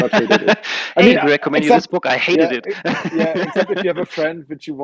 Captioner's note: laughs